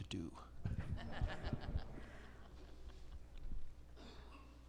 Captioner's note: attendees chuckling